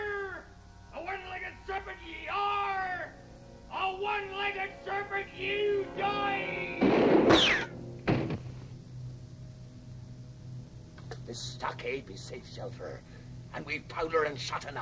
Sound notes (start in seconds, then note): 6.2 gun fires